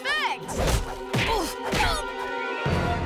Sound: grunting

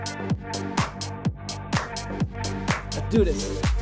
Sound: background upbeat music; clapping

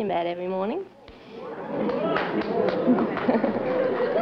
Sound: audience amazed; laughter

